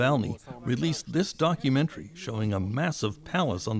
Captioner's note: speaking foreign language